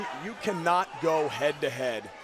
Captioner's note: crowd chatter